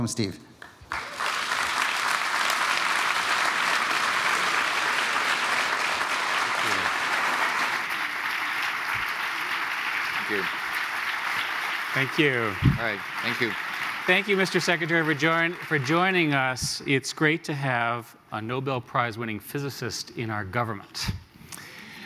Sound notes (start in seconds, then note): 0.3 applause; 9.5 applause continues